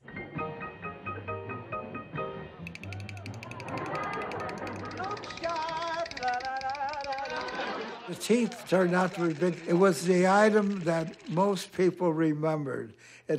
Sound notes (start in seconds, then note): 0.2 peppy music; 2.6 teeth chattering